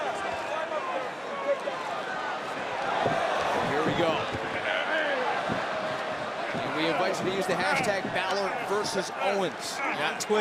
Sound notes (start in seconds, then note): 1.9 crowd cheering